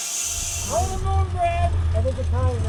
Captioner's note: people chattering indistinctly